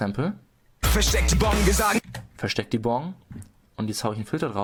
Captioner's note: cool voice